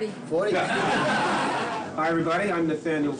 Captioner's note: crowd laughing